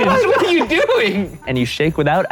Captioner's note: laughing